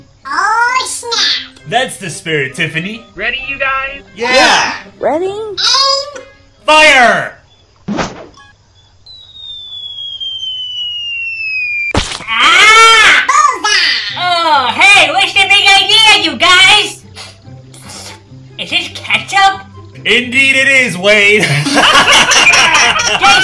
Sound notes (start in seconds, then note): 11.7 Wade yells; 11.9 splat; 17.8 sniffs and licks; 21.4 laughter; 21.4 laughs